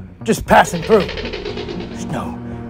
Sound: raptor Sounds

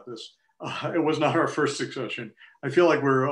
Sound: laughter

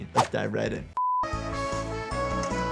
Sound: tone beeps; playful music

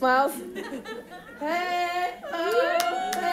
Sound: people chuckle

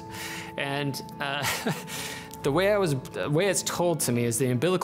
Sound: chuckles

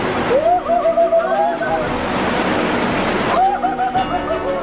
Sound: exclaims

